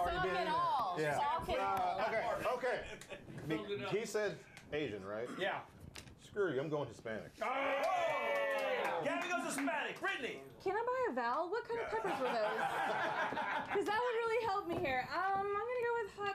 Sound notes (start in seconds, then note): 7.4 scattered cheers; 11.8 laughter